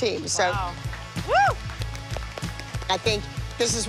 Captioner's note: applause